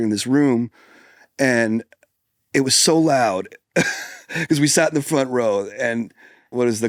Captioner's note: laughs